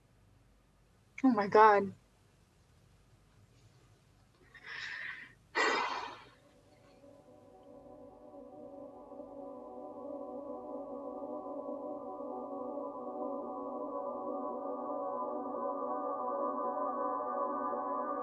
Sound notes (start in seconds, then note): 7.1 sighs; 12.3 overwhelming music playing